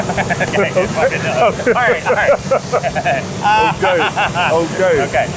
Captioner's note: laughs